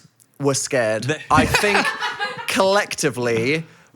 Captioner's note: laughing